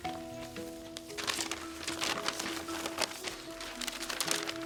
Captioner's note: paper ruffling